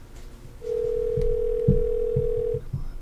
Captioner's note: ringing in cell phone